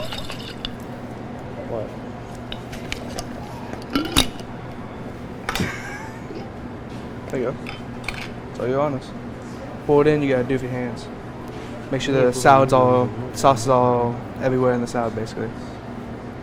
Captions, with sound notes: - What? (jar clinks) (cook wheezes) There you go. I tell you honest. To pull it in, you gotta do it with your hands. Make sure the salad's all, the sauce is all everywhere in the salad, basically.